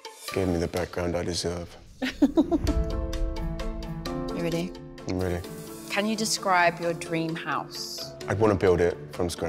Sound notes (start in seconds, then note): 2.0 chuckles